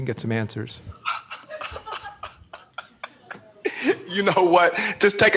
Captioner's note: laughs